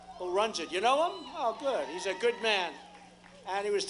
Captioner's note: applause & cheering